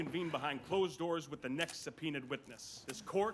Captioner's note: camera clicks